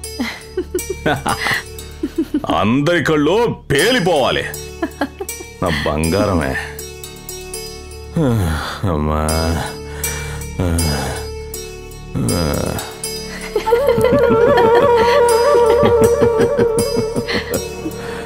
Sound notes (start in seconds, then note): 0.2 laughs; 4.8 laughs; 8.2 groans; 13.3 laughs